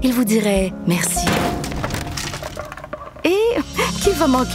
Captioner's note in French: brouette qui tombe